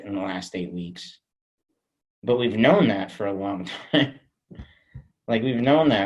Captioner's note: chuckles